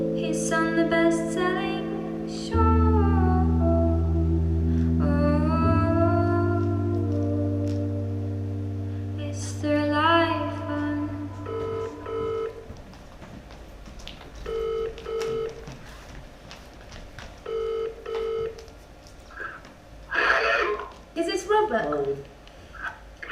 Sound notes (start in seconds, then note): 11.4 phone rings; 20.4 on phone